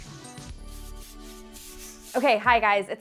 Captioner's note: paint roller swishing